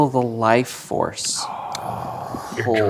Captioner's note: gasps